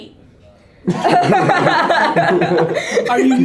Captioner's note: everyone laughs